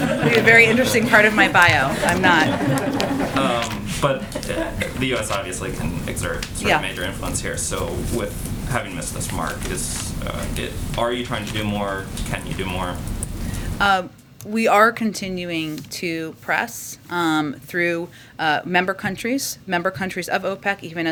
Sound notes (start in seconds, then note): 0.0 laughter